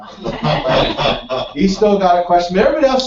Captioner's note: laugh